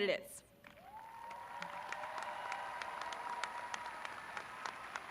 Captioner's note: graduates cheering